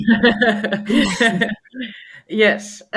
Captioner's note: both chuckle